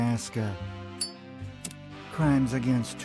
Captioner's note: lighter flick